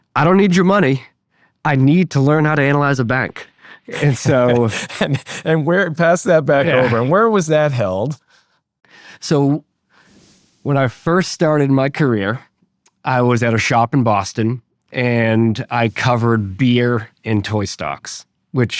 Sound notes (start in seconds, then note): 3.7 laughing